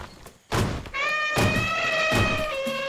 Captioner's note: badou trumpets loudly